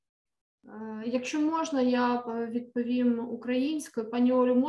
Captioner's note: speaking ukrainian